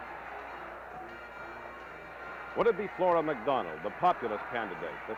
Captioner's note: crowd noise